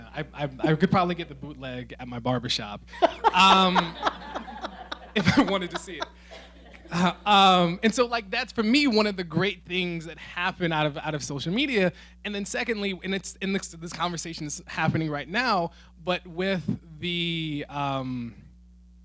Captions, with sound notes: I could probly get the bootleg at my barbershop. (laughing) If I wanted to see it. And so that's for me, one of the great things that happened out of social media. And then secondly, and this conversation's happening right now, but with the